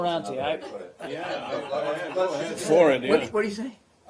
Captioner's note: laughter